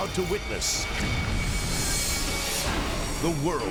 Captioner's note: explosion booms